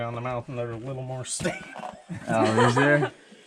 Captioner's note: laughing